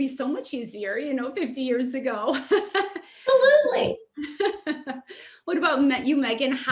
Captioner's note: laughs